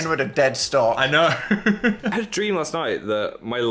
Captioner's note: laughs